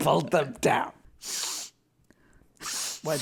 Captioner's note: sniffles